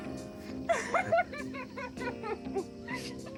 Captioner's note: crying